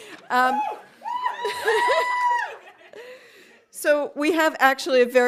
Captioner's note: audience cheering